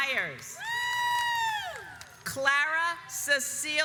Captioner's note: audience applauds